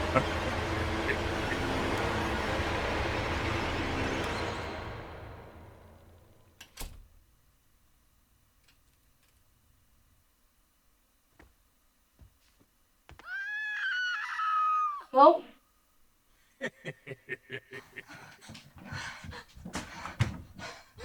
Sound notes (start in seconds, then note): 0.0 leprechaun laughing; 6.6 door clicking; 13.2 Linda screaming; 16.5 leprechaun laughing; 18.2 Tilly gasping